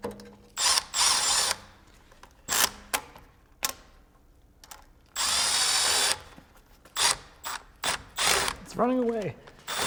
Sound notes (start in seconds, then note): 0.6 screw drill whirring